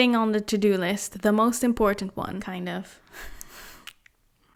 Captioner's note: laughs